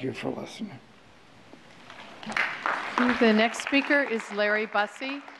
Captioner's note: applause